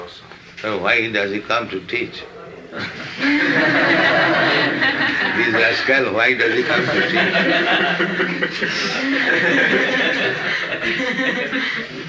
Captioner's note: laughter